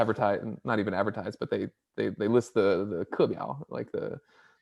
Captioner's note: speaks in Mandarin